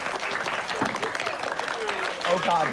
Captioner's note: applause